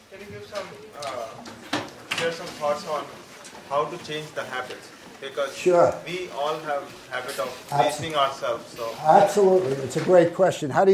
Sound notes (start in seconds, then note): 0.3 voiceover; 6.3 voiceover